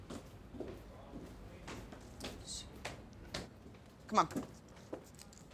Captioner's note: footsteps echoing; people chattering